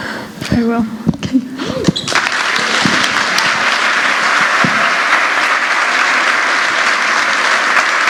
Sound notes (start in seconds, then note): 5.1 applause